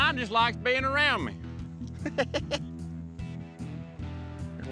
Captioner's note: chuckling